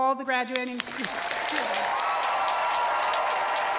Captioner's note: applause